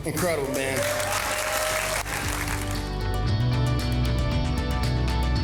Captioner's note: all applauding; bright music